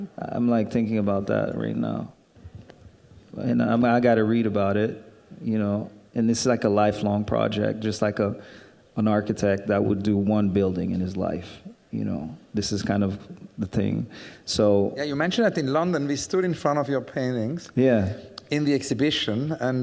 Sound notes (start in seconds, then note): none